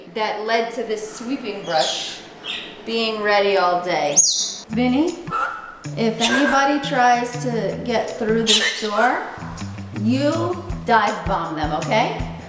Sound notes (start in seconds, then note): 5.2 Vinny squawks